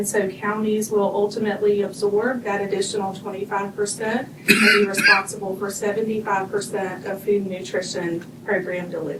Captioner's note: clears throat